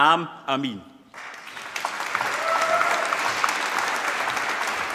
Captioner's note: applause